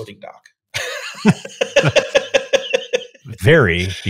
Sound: laughing

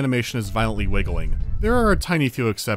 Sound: rumbling sound

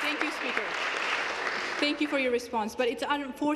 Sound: applause

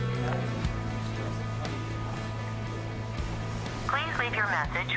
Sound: phone ringing

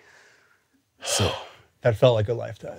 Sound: exhales

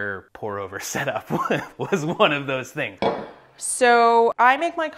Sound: laughs

